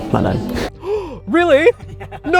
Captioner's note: gasps; laughs; chuckles